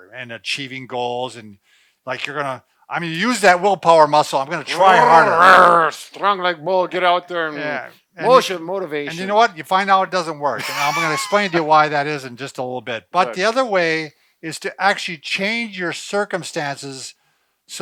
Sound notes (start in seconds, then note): 4.6 growls; 10.6 laughs